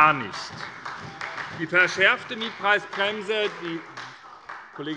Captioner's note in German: Beifall bei der SPD - Zurufe von dem BÜNDNIS 90/DIE GRÜNEN